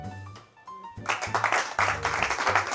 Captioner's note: applause